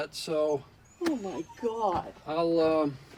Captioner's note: Frenchie whimpering